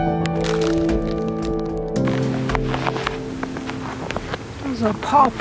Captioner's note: footsteps in the snow